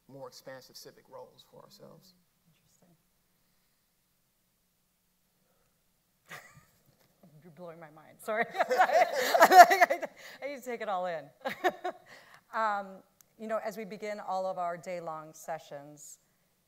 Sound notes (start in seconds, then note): 6.5 laughs; 8.4 panelists laughing; 11.5 laughs